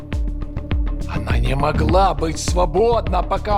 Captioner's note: speaking russian